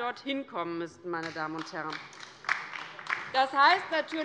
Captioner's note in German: Beifall bei der LINKEN